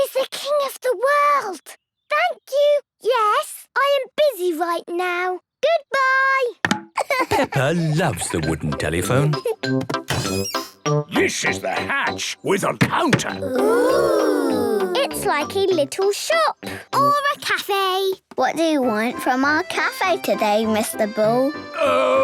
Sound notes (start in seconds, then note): 7.0 laughing